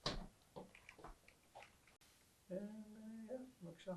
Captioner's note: hebrew